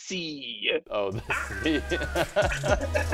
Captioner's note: upbeat music; laughs